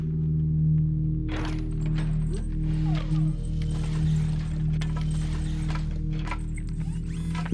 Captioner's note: metal clinking; chains clinking; Kellogg's limbs whirring